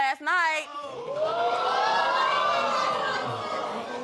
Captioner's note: audience exclaiming